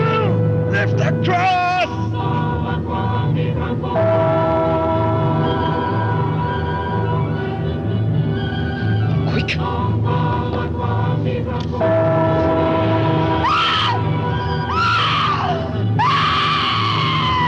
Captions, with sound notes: Lift the cross! Quick! (Pat screams)